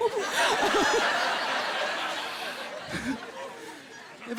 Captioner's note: laughing